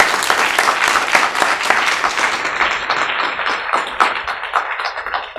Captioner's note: audience applauding